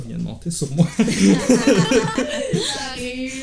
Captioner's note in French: rires